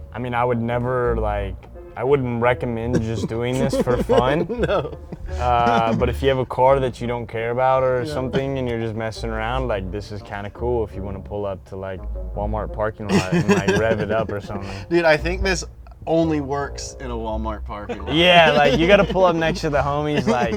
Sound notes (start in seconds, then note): 2.8 laughing